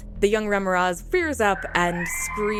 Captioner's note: worm scream